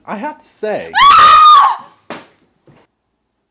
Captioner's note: screaming